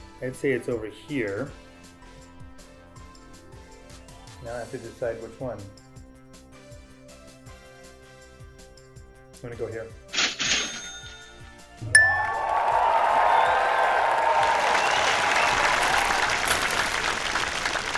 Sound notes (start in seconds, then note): 12.0 applause